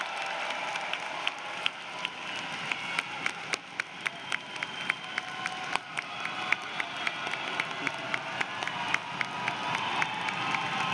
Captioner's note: cheers and applause